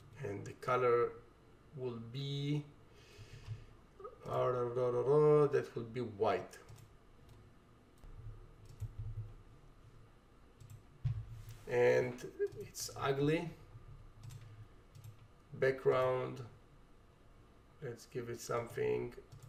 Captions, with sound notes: And the color will be (vocalizes) that will be white. And it's ugly. Background, let's give it something.